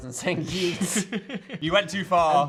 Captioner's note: Phil laughs